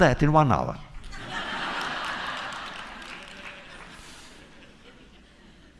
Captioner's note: laughter